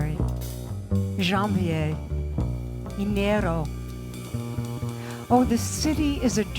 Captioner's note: presenter speaks in foreign language